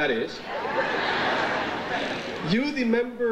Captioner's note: audience laughs